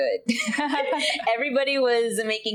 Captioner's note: laughing